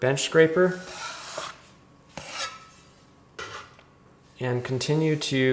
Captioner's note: scraper scrapes